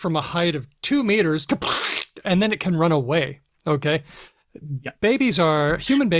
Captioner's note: makes a giraffe falling sound